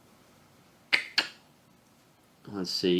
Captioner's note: clicking tongue